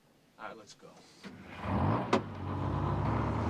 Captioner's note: engine starting up